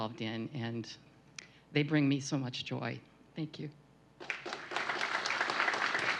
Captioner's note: applause